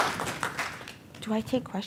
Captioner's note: audience members applauding